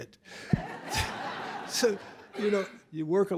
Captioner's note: laughter